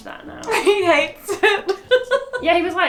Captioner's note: laughs